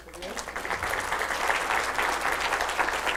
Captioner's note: applause